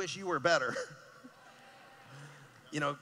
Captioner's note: cheering